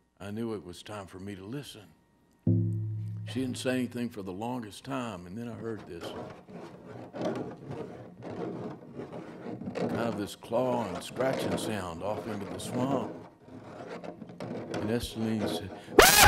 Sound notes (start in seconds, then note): 6.1 scratching Noise